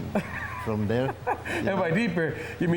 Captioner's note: laughs